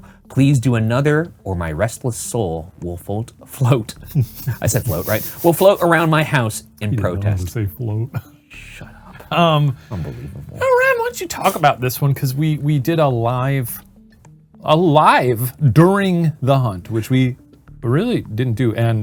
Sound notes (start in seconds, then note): 4.0 chuckling